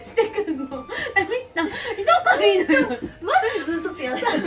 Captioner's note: laughs